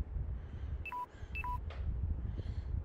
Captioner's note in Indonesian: Suara baterai lemah